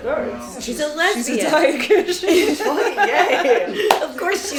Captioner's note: everyone laughs